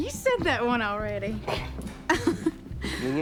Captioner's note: laughs